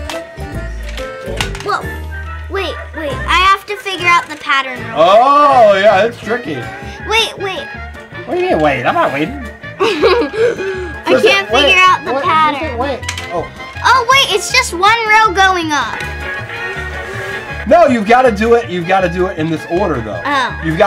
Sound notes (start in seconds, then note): 0.8 balls clanking